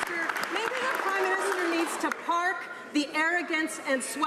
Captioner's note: some Applause